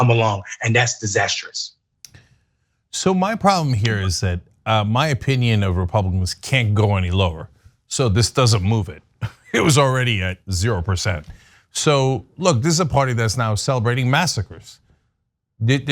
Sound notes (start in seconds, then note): 9.2 laugh